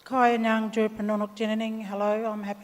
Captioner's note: speaks native language